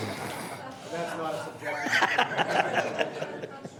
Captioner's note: laughter